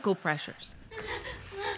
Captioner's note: laughter